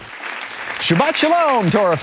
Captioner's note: audience applauding